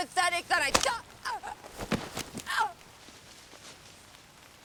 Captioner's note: Mackenzie grunts